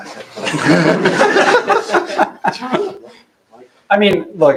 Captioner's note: laughter